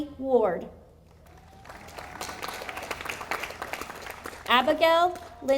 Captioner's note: audience applauding